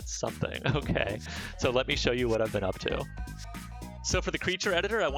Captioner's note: laughs